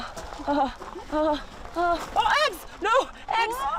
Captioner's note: whimpering